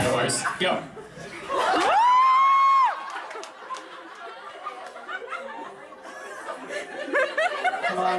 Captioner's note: audience cheers